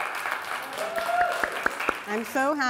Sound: applause

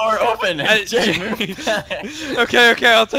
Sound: laughing

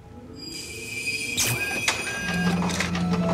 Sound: electricity buzzing; copier printing

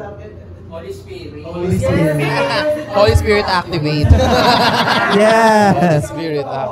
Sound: laughter

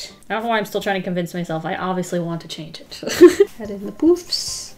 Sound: laughs

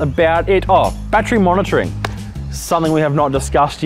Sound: hands clapping

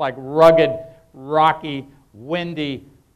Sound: none

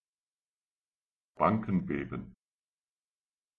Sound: fast Pronunciation

